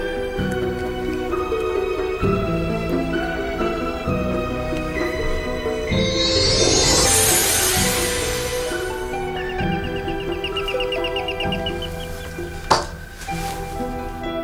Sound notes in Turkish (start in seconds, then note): 9.6 zi̇l çaliyor